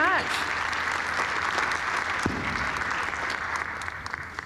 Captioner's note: audience applauding